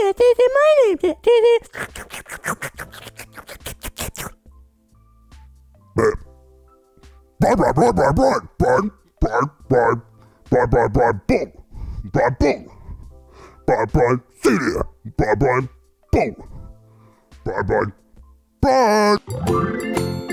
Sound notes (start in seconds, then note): 1.7 slurps; 5.9 burps